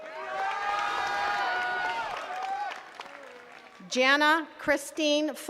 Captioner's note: attendees cheering and clapping